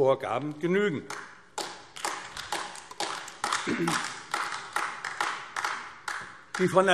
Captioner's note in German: Beifall AfD